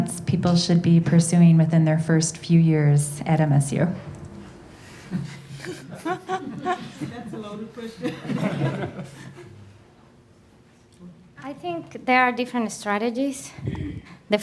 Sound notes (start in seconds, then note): 4.9 laughing